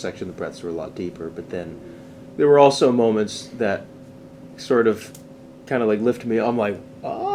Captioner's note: aaah!